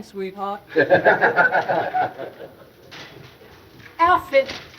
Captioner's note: men laughing